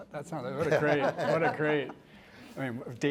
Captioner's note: laughter